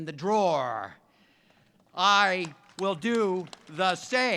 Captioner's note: audience claps